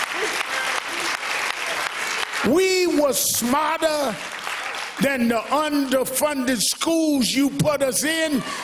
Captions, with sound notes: BEING, YOU KEPT YOUR KNEE ON OUR NECK. [ APPLAUSE ]